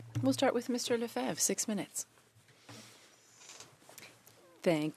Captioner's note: speaking French